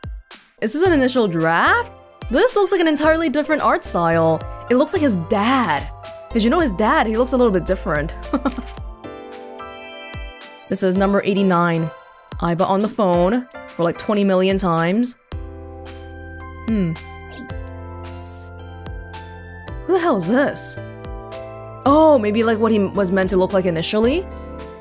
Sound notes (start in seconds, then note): 8.3 chuckles